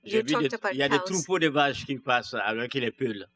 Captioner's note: speaking french